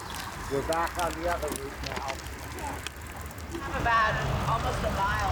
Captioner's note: cyclists chattering